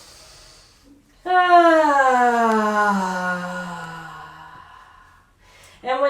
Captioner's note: sigh